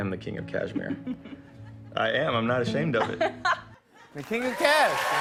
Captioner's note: cheers and applause